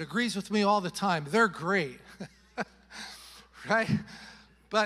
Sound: chuckles

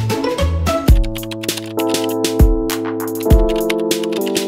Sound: typing sound

